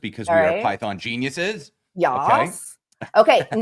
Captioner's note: laughter